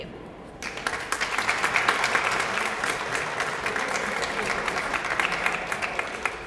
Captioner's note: applause